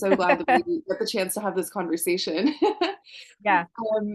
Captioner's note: laughs